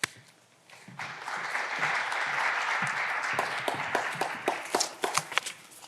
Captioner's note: clapping continues; papers rustling